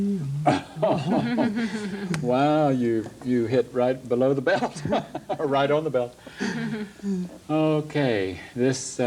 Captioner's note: laughs